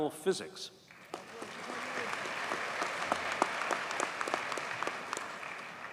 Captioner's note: audience cheers and applauds